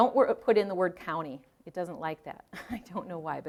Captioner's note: chuckling